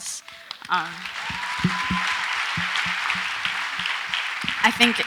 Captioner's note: audience applauds